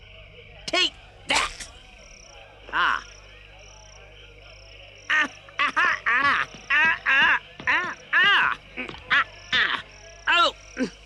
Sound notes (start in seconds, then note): 5.6 struggles